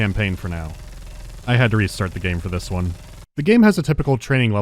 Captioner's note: brrrrrt